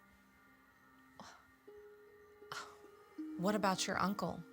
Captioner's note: scoffs